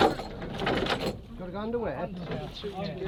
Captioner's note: anchor chain noise